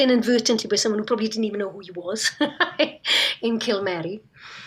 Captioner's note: laughs